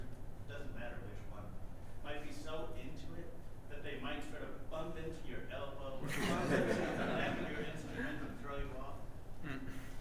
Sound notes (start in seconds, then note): 6.0 audience laughing